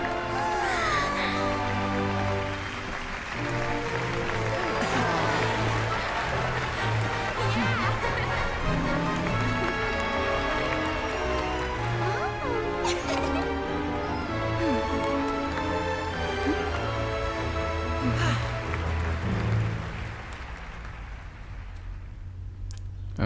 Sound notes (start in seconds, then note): 0.0 applause; 2.4 applause; 11.8 applause